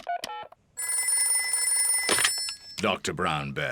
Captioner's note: beeping; phone rings